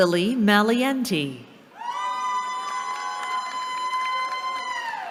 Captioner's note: cheering